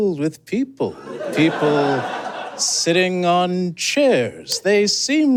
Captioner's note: audience giggles